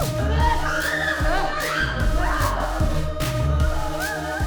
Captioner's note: upbeat music; both screaming; upbeat music